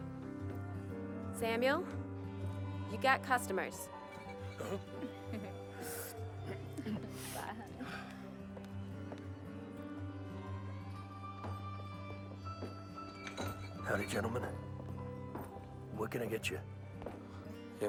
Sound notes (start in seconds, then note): 4.1 giggling